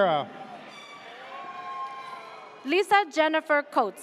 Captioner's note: air horn blares